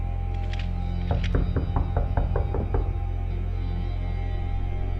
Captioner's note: knocking on the door